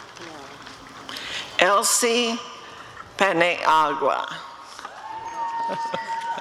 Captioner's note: applause and cheering; audience cheering